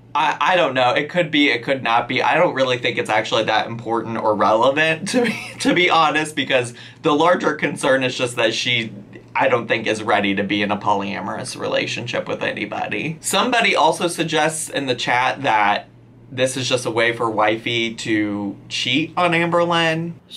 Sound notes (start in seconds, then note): 5.0 laughs